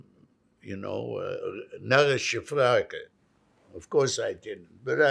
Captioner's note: non-english